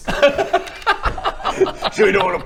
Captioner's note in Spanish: risitas